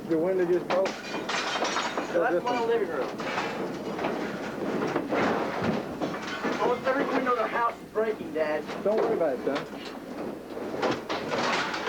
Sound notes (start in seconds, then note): 0.8 glass breaking